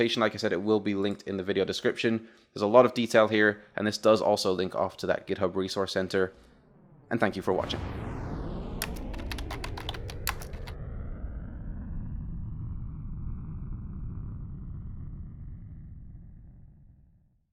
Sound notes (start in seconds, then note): 8.8 typing sounds